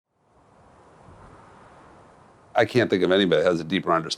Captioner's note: the faint sound of wind